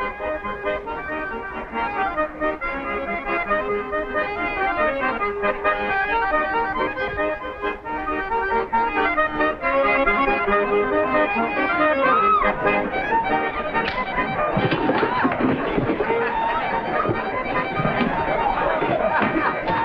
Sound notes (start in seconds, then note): 0.0 uplifting music; 4.9 uplifting music; 11.7 woman screams - slap in the face; 18.1 laughter - uplifting music